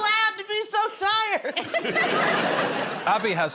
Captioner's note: laughter